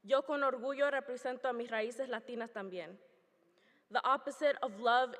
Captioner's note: speaking foreign language